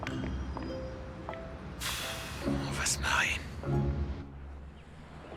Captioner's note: sighs